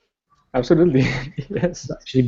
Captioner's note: laughs